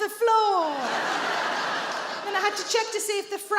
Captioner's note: audience laughs